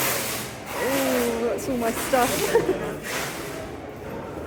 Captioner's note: nervous laugh